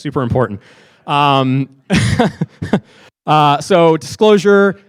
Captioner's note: laughing